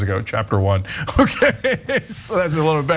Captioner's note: laugh